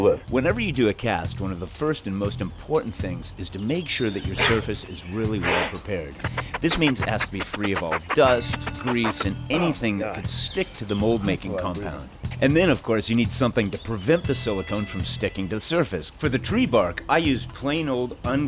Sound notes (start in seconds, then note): 4.0 puffing